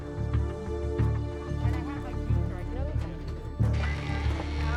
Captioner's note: chatter